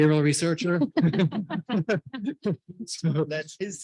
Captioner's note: panelists chuckling